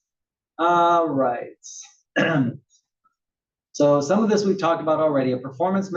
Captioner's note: cough